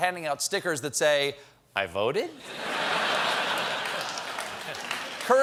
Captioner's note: laughter; applause